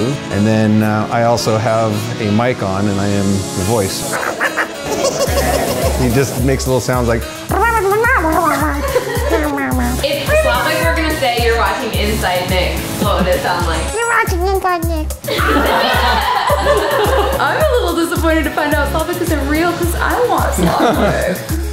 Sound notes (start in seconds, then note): 7.5 squeaking; 15.2 laughing